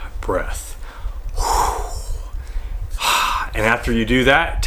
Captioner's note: dramatic exhale